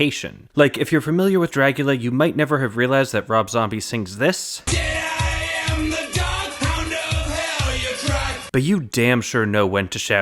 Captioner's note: bang